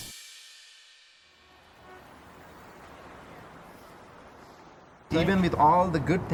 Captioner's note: gentle cymbals music; people chattering; horns honking